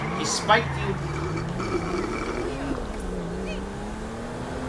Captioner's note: slurping